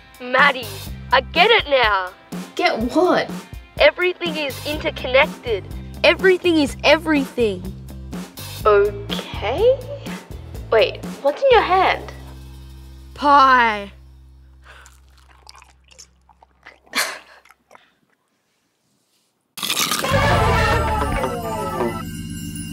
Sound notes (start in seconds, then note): 14.6 chewing; 16.4 laughs; 19.5 crunching sound; 22.5 chime music